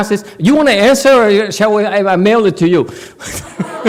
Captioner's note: laughs, audience laughs